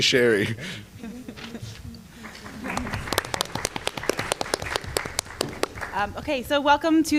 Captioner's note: applause